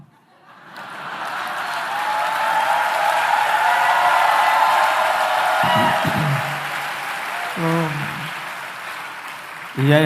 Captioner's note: clapping and cheers